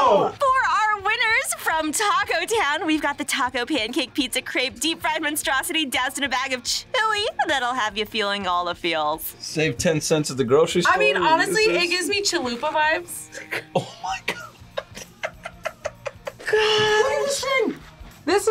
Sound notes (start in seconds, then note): 13.1 laughs